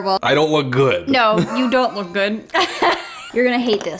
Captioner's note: laughs